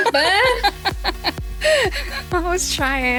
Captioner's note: both laughing